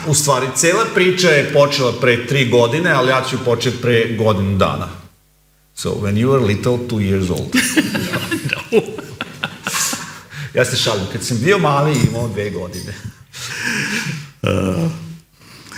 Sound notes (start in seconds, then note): 7.5 laughs